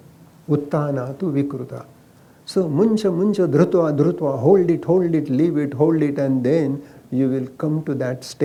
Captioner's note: speaks in Sanskrit – not transcribed